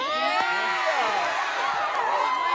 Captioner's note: cheering